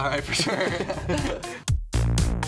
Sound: laughs; upbeat music

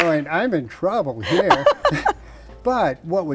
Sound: laughs

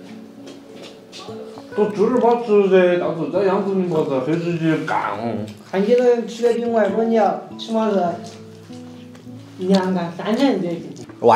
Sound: they are chatting and eating

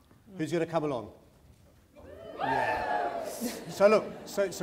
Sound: cheering

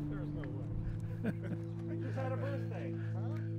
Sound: chuckling

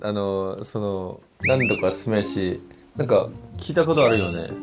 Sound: suddenly awkward sound effects

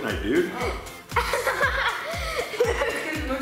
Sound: laughing

